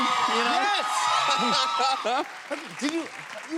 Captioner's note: laughs